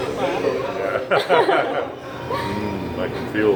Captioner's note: laughs